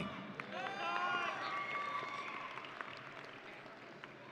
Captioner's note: audience cheering